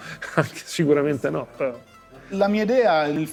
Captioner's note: chuckles